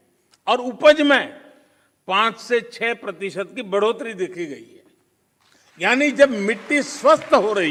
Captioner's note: applause